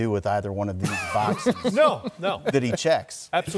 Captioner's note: laughter